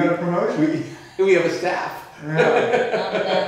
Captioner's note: laughing